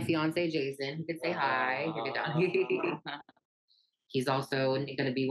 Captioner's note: laughs